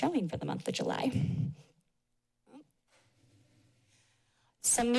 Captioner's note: pause